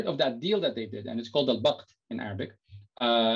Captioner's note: non-english speech